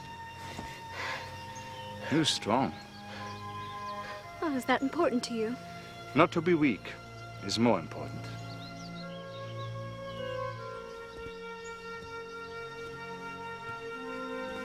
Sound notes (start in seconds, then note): 0.9 grunts